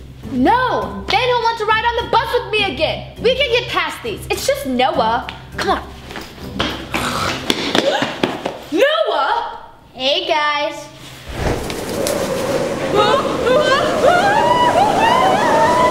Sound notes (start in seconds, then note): 11.0 air whooshing